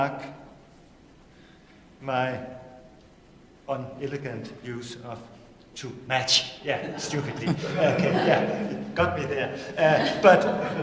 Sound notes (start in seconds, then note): 9.5 laughter